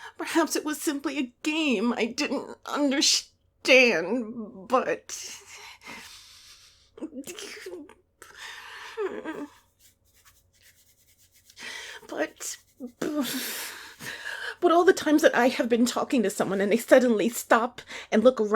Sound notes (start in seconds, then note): 6.5 frustrated groans/whimpers; 9.5 quick arm scratching starts ... ... stops